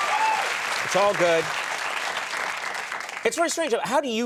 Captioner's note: audience cheering